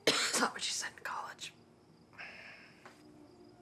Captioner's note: coughs